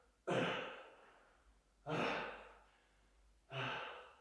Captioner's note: Jacob coughs; Jacob panting